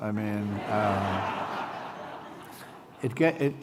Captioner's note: laughter